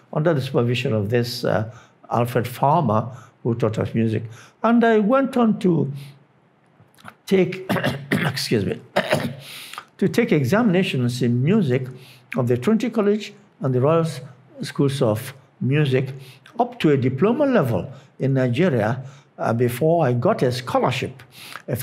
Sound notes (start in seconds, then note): 8.9 coughs